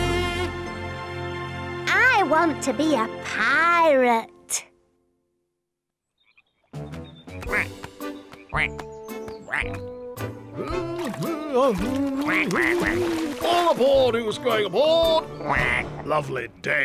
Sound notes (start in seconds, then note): 7.3 quacks; 12.2 quacks